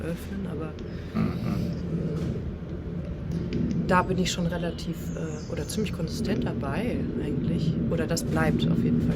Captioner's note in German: räuspern